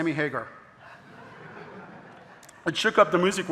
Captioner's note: audience laughing